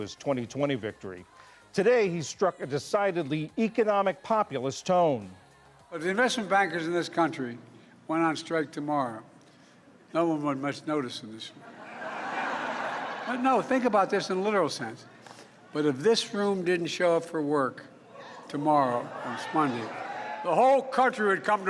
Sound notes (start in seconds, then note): 14.4 laughter